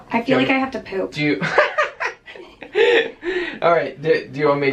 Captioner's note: chuckling